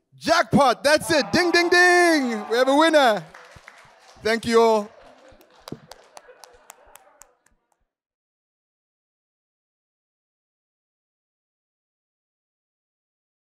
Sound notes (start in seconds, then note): 4.4 audience applauding